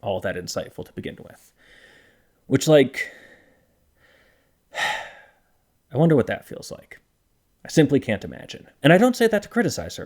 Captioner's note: sigh